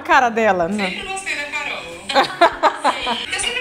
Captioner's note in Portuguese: risos